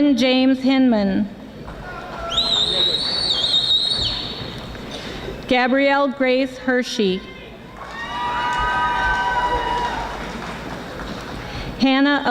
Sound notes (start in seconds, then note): 2.2 audience whistling; 7.7 audience applauding